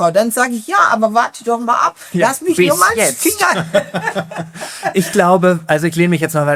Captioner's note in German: gelächter